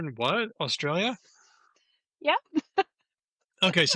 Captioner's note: laughs